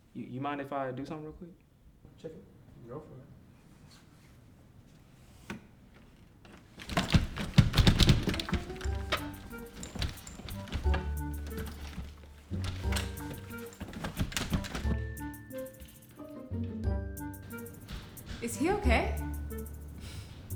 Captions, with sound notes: Do you mind if I do something real quick? [Door yanking and rattling] Is he okay?